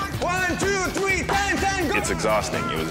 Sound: men yelling

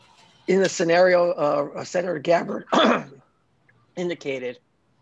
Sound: clears throat

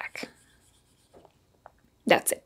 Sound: pen scribbling

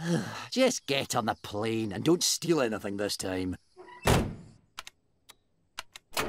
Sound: sigh

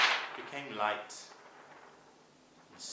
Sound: sound of light rustling of paper

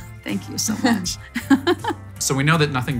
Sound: giggling

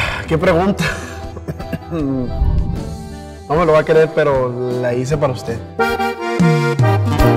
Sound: cough

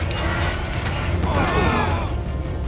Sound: groaning

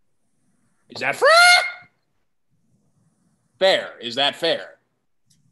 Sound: skwaking

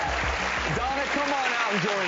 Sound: audience cheering

